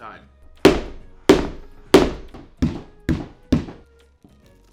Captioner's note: hummer bumping